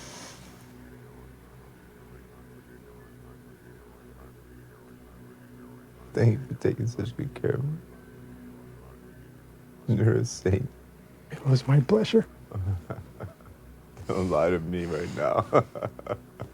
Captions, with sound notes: - Thank you for taking such good care of me. You're insane. - It was my pleasure. - (laughs) Don't lie to me right now.